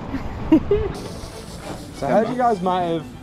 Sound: laughs

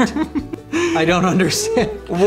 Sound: inhales his own laughs

